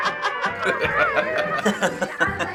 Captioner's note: chuckling; laughing; chuckling